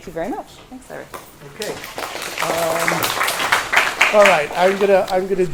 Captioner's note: applause